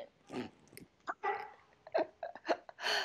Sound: laughing

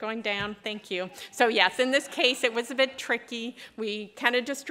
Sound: laughter

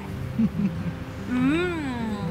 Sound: giggles

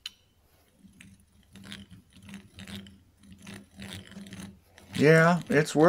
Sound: manual drilling sounds

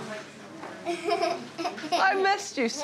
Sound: giggles

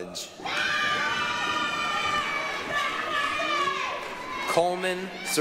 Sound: applause, cheering

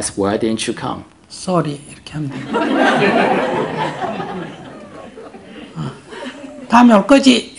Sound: audience Laughter

